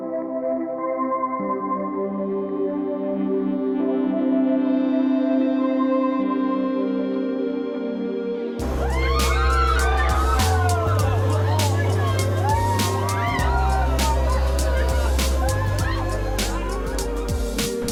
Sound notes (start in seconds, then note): 8.6 group screaming